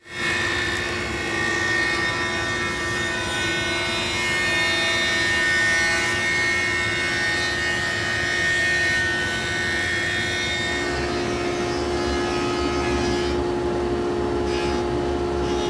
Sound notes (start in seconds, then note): 0.3 machine whirring; 11.6 machine whirring